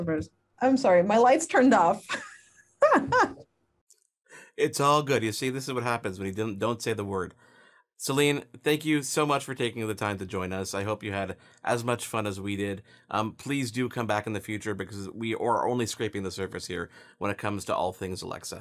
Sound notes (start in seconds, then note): 2.0 chuckles